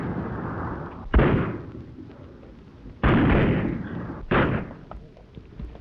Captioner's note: gunshots banging